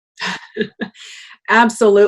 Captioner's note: laughs